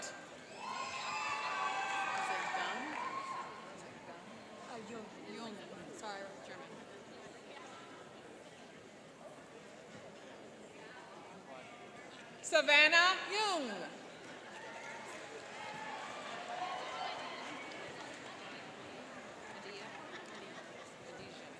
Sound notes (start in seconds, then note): 0.4 cheering and applauding; 14.2 cheering and applauding